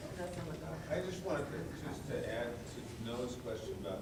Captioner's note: voiceover